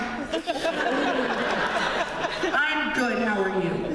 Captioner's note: laughter